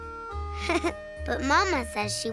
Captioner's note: chuckling